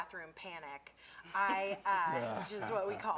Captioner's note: laughter